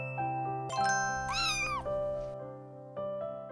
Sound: kitten meows

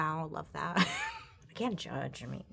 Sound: laughs

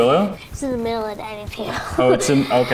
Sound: laughs

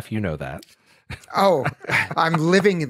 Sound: laughs

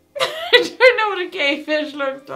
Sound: laughing

